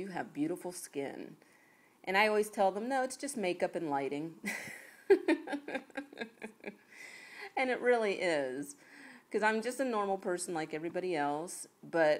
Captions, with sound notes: You have beautiful skin". And I always tell them, "No. It's just makeup and lighting". [LAUGHS] And it really is. Because I'm just a normal person like everybody else.